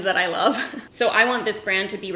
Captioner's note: giggles